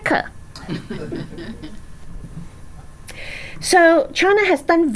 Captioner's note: laughs